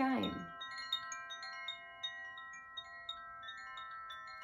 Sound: chimes

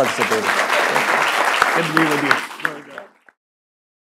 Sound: applause

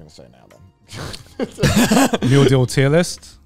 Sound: all laughing

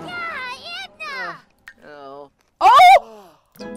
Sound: Kasey yells

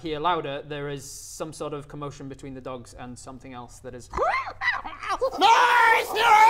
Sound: hyyrgh ah rgggh!

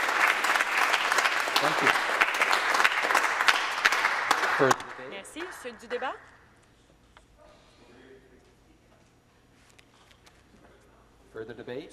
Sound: applause

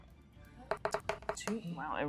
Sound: die rolling

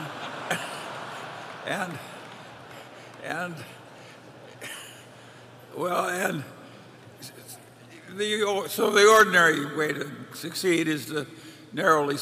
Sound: laughter

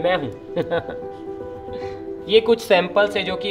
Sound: chuckles

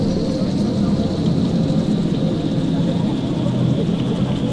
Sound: rain hammers down

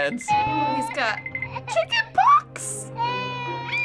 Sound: doll wailing; doll wailing, screaming

